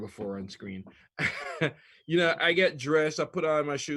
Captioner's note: chuckles